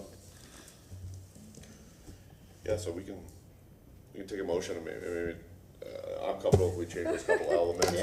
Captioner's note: laughter